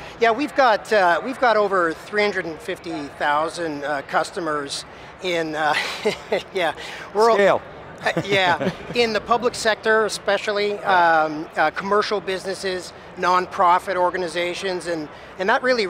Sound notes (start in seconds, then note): 5.6 chuckling; 8.0 laughing